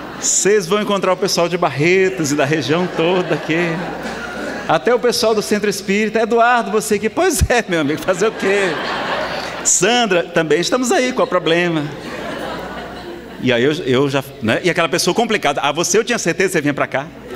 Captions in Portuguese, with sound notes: Vocês vão encontrar o pessoal de Barretos, da região toda aqui. (Risadas) Até o pessoal do Centro Espírita. Eduardo você que é... Pois é meu amigo, fazer o quê? (Gargalhadas) Sandra, também estamos aí. Qual é o problema? (Risadas) E ai, aquela pessoa complicada. Ah! Você eu tinha certeza que você vinha pra cá.